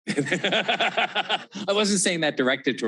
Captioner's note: panelists and audience laughing